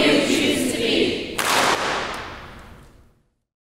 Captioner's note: clap